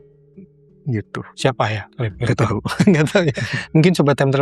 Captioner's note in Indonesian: tertawa